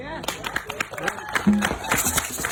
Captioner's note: audience applauding; audience cheering; audience drumming rhythmically